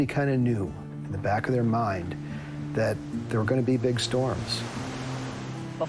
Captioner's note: waves crashing